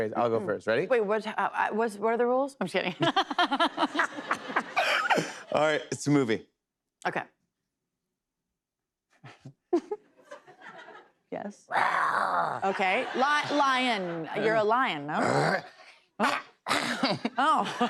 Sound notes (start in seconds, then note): 2.9 laughter; 9.6 both chuckle; 15.1 growling, coughs